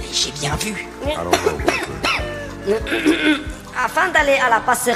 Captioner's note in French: Tousse